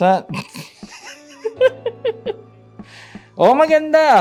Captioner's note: laughs